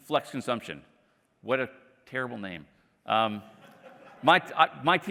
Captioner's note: laughter